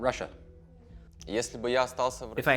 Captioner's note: speaking in foreign language